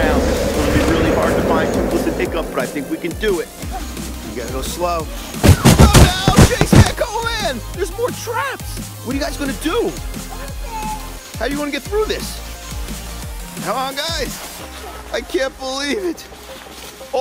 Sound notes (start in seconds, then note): 5.4 popping